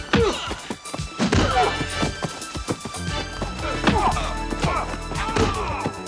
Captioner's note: dramatic music; body thudding; men groaning